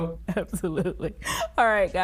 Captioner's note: chuckles